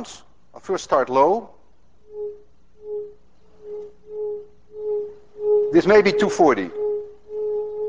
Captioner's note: tube hums medium tone